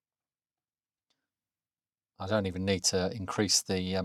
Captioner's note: blank Audio